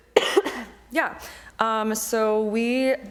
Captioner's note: coughing